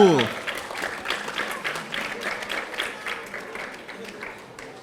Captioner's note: audience applauding